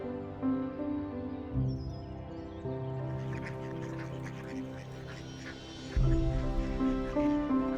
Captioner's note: peaceful music continues; ducks quacking